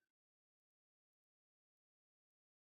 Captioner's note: none